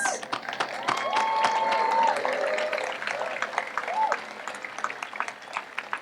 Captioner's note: audience applauds and cheers